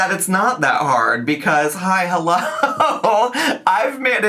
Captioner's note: laughs